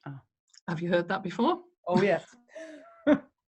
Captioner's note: chuckles